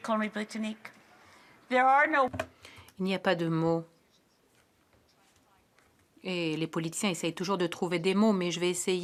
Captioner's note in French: voix de l'interprète